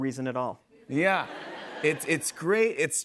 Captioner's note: laughter